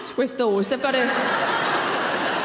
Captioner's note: laughing